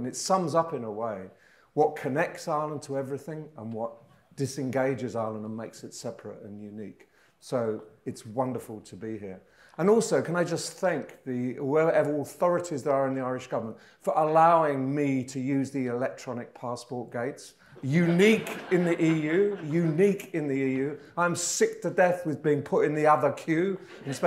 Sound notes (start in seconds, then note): 17.8 audience laughing